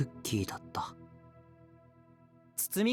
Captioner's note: none